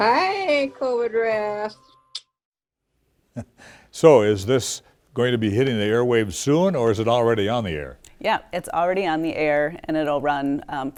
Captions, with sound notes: - Hi COVID Ref? - (chuckles) so, is this going to be hitting the airwaves soon or is it already on the air? - Yeah, it's already on the air and it'll run